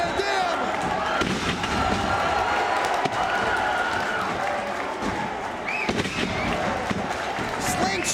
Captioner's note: applause